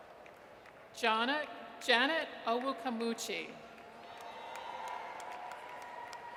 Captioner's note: audience cheers